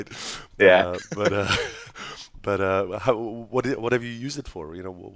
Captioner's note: laughs